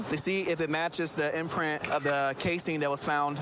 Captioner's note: camera app clicks